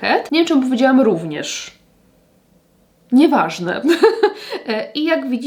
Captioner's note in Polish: śmiech